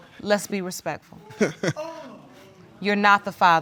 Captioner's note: chuckling